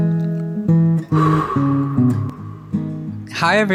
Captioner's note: long exhalation